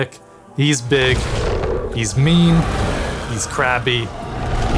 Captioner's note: Colossal minion roaring